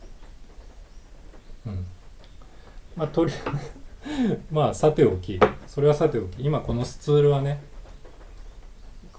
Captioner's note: laughs